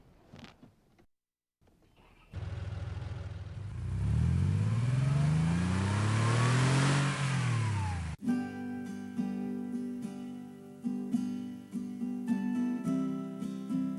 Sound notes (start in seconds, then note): 4.2 engine revs; 8.2 serene guitar music